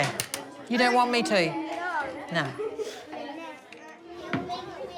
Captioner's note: chuckles